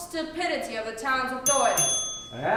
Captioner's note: bell rings